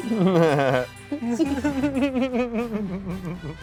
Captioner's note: laughs; upbeat jazz music